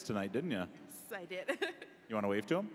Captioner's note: laughing